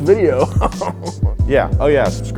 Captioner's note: laughs